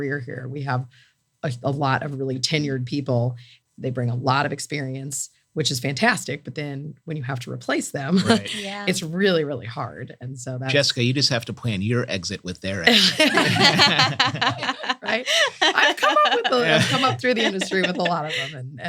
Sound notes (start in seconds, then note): 12.8 laughter